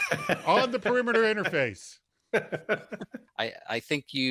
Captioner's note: everybody laughs